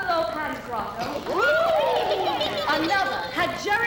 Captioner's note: women snicker